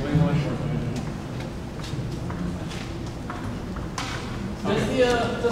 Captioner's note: background chatter